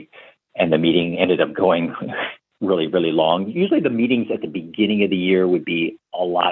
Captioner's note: laughter